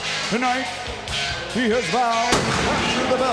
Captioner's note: pyrotechnics explode